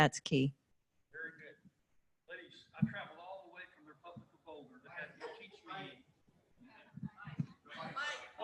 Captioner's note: off microphone